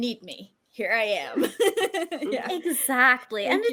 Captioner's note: laughs